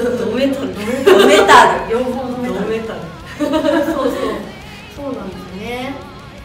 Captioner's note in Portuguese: risos